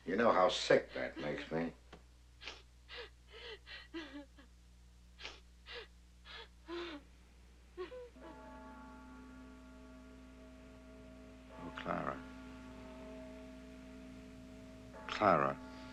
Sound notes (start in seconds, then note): 4.5 sobbing Continues; 8.4 clock Tolling